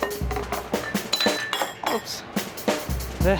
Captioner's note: bowl clatters